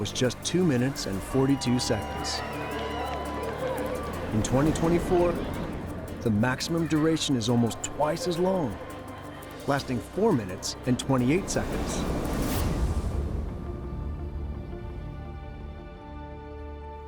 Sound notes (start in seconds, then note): 2.6 crowd cheering